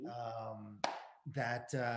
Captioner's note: Tim claps